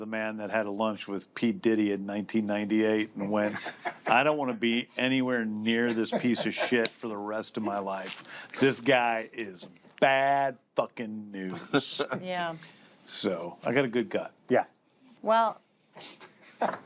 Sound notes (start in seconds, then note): 11.4 chuckles; 16.4 chuckles